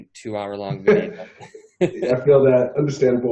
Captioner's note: both men chuckle